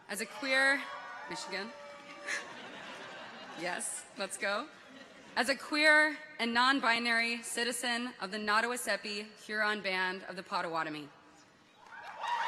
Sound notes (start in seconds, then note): 2.1 people chuckle; 11.8 people cheer; 11.9 audience applauds